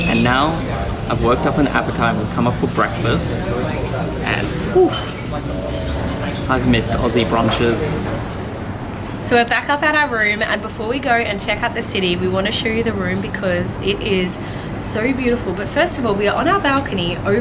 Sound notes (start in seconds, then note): 0.0 water bubbling; 4.2 exhales